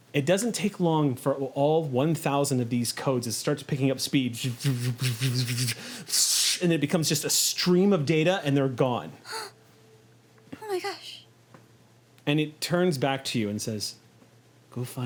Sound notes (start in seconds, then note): 4.9 buzzing; 9.2 gasps